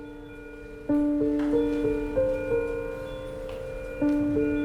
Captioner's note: contemplative piano music; monitor beeps